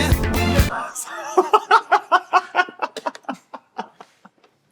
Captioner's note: laughing